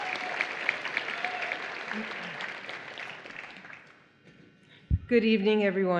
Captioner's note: applause